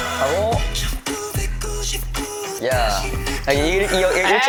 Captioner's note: uh-huh-huh